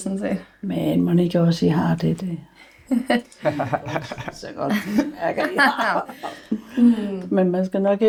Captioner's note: laughter